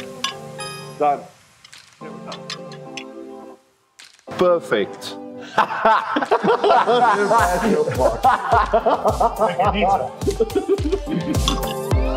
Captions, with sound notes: - Done. Perfect! (all laughing heartily) (upbeat music)